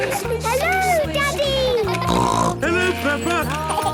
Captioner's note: laughter; snorting; laughter